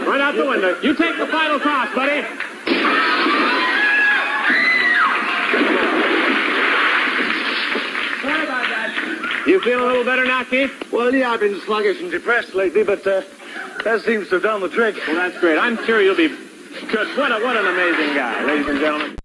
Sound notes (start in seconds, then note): 2.6 loud crash and cheering studio crowd